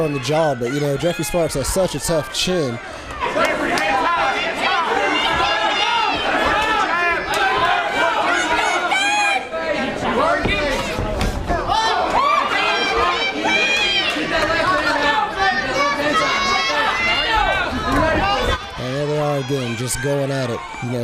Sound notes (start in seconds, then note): 2.8 fight & crowd noise